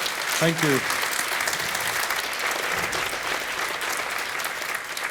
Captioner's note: audience applauding